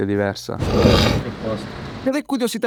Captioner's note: sniffs